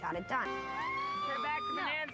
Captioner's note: cheering